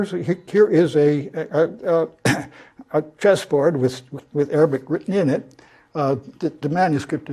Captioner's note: cough